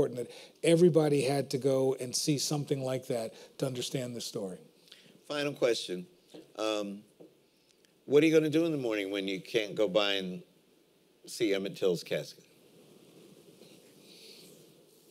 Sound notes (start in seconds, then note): none